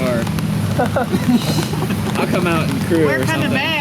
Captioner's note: laughing